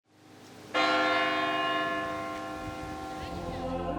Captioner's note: church bells chiming; choir singing